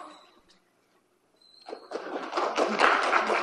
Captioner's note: clapping